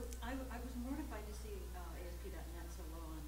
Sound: voiceover

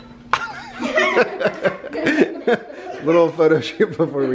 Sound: everyone laughing

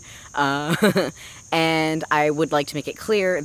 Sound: chuckles

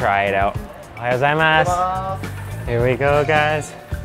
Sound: speaks in foreign language

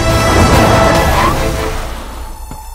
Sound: brakes squeal

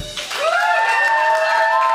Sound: crowd cheers and claps

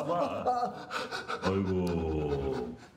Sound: man clamoring; man panting; man speaking in foreign language

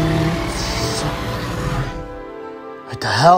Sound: albertosaurus roaring

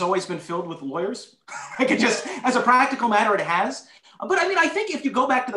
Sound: laughter

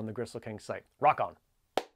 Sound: claps hands

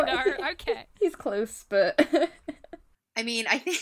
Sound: laughs

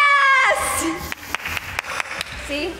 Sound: claps

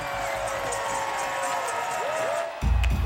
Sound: cheering

